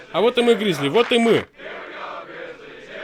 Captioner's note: clap clap